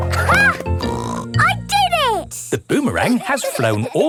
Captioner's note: snorts